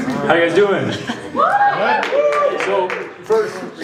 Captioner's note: cheers, applause